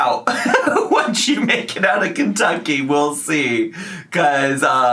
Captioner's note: laughs